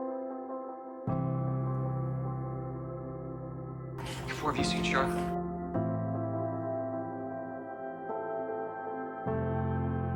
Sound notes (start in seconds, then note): 4.4 voiceover